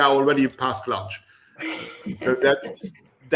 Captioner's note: laughter